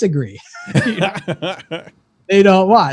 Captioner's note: laugh